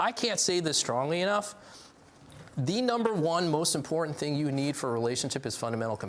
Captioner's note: none